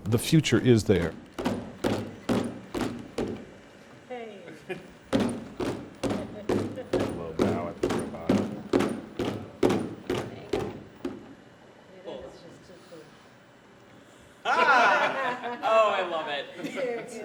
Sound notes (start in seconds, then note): 2.1 loud stomping; 10.3 students chattering and laughing